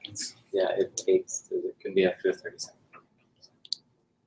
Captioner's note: speaking off mic